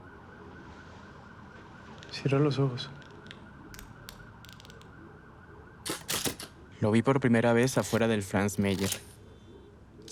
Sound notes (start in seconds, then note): 2.2 characters speaking in foreign language; 5.8 camera clicks